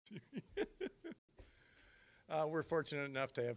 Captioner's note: laughing